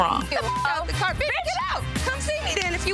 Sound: beep

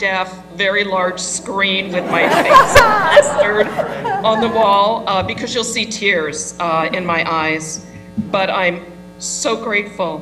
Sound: laugh

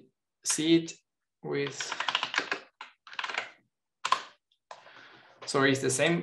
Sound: keyboard clattering

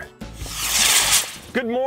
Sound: loud whooshing

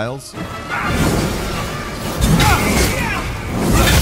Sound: sword whooshing; warriors grunting

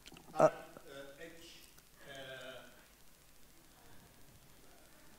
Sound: speaks off microphone

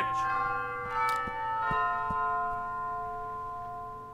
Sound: bell tolls

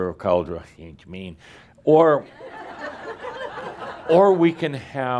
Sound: laughter, as Adamus exaggerates the American pronunciation

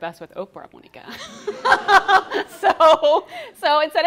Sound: laughing

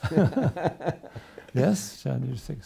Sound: laughs

